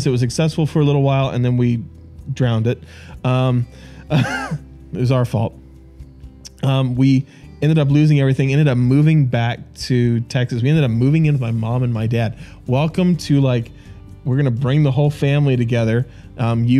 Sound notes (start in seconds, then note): 4.1 laughing